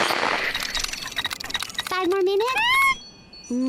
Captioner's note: Huggy shrieks at her